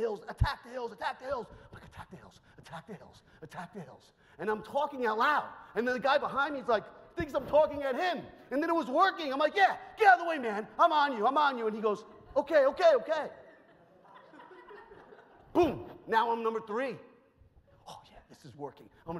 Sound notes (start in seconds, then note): 13.0 audience laughs